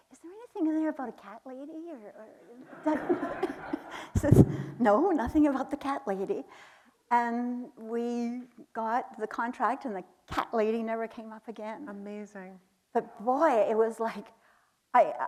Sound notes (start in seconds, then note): 2.6 chuckles; 2.6 audience laughing